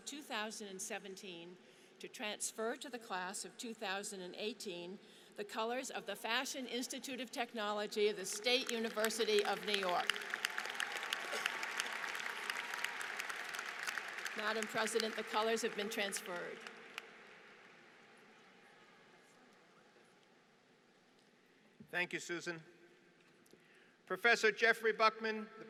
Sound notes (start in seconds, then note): 8.2 applause